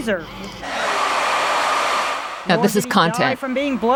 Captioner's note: dryer whirring